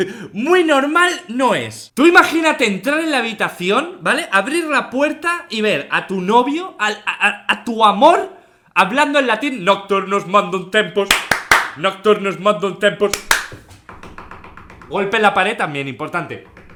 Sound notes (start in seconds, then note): 11.1 claps; 11.1 claps again; 13.2 knocks the wall